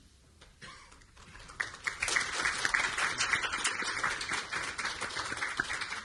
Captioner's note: audience applauding